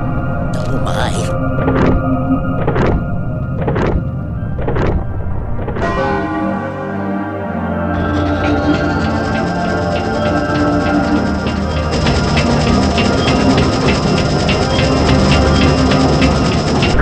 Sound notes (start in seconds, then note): 1.6 clock ticking; 5.6 bell Chimes